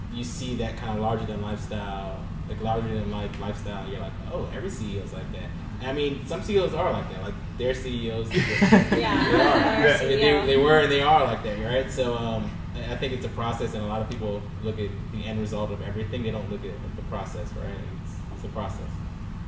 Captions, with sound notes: you see that kind of larger-than-life style, like larger-than-life lifestyle, you're like oh, every CEO's like that. I mean, some CEOs are like that. Like their CEOs-- (crowd laughs) - They were and there are like that, so I think it's a process, and a lot of people look at the end result of everything, they don't look at the process, right, it's a process.